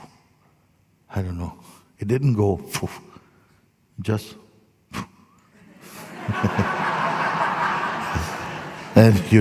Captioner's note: laughter